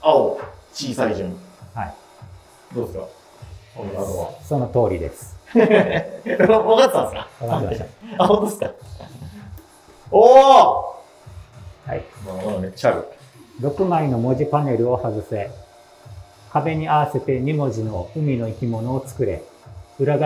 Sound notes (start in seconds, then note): 5.5 laughing